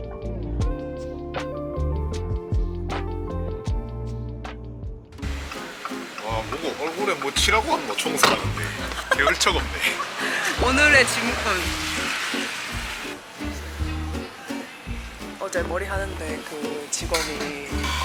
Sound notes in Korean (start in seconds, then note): 8.1 ㅋㅋㅋㅋㅋㅋㅋㅋㅋㅋ